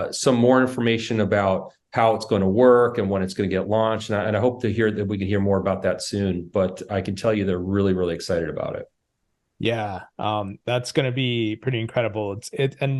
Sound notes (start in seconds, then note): none